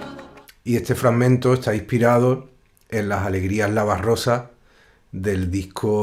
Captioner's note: musician speaking in Spanish